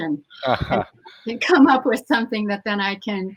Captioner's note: laughing